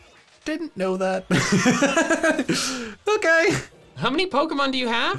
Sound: laughs

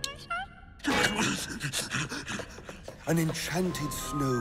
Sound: non-english speech; grunting

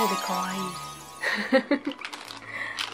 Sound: laughs

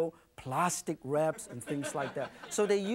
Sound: audience laughing

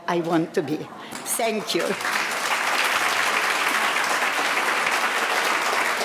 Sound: audience applauding

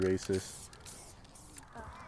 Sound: spray can sounds

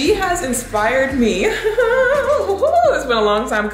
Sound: laughs

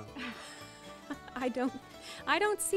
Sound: chuckles

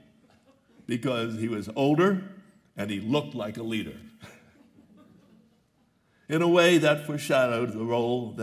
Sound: laughter

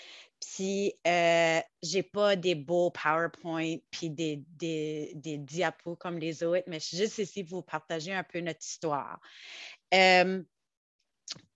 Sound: French

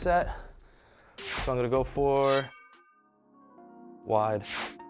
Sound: sword unsheathing

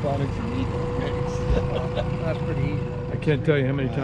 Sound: background chatter

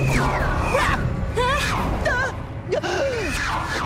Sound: shrieking

